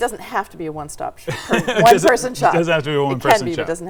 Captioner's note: laughing